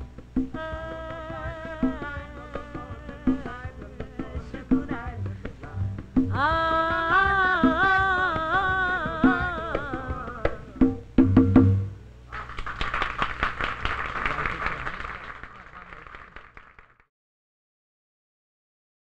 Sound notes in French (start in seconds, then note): 0.1 vocalisation; 12.3 applaudissements